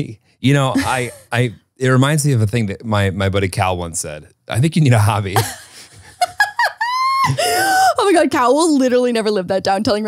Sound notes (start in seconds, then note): 5.3 laughs